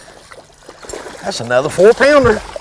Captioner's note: splashing